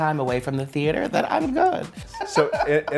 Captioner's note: laughs